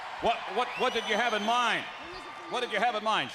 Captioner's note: crowd cheering